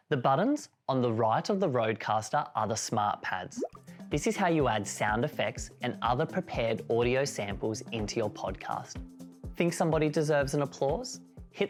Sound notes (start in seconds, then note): 3.6 bubble pops sound